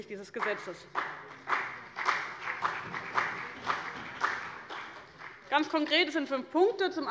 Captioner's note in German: Beifall bei dem BÜNDNIS 90/DIE GRÜNEN und der CDU